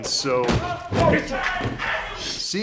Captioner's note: shouting